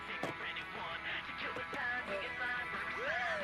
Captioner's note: siren wails